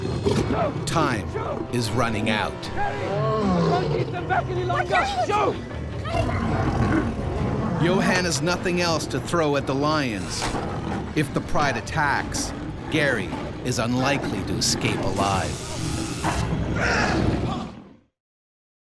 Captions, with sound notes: - [Voiceover] Time is running out. - Gerrie I can't keep them back any longer. - [Voiceover] Johan has nothing else to throw at the lions. If the pride attacks, Gerrie is unlikely to escape alive. (growling)